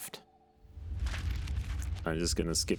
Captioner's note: pages flipping